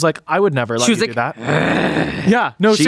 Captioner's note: growls